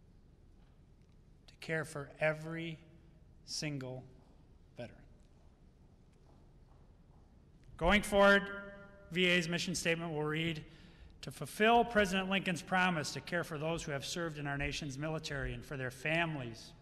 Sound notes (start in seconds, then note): none